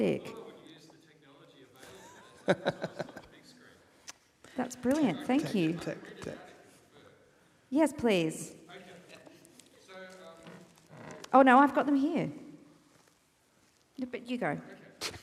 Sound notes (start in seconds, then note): 1.9 laughs